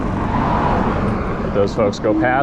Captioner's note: car engine revs